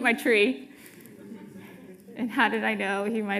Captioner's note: audience laughing